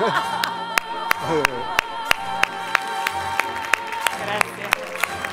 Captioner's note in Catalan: Aplaudeixen